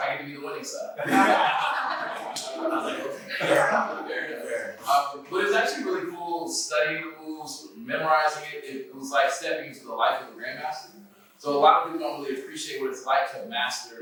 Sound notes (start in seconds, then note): 1.0 laughter